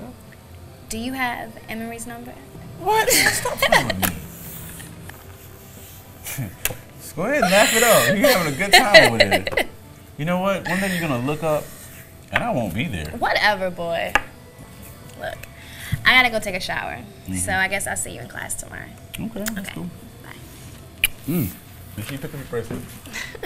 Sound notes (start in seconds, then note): 7.4 woman laughing